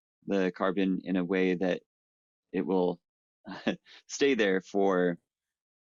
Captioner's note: chuckles